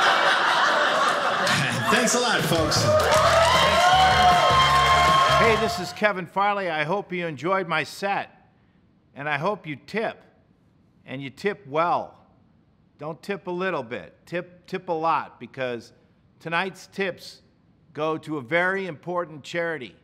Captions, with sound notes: (audience laughing) Thanks a lot folks! (audience cheers )